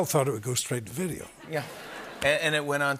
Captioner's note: laughter